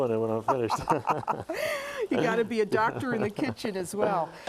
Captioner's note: laughter